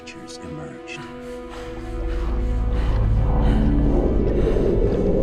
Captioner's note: creatures growling